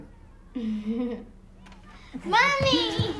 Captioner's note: Lena giggles